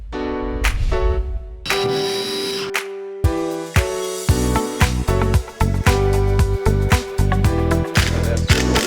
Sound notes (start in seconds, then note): 0.8 relaxed music; 1.6 drill whirring; 4.7 relaxed music